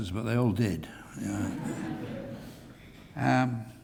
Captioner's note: laugh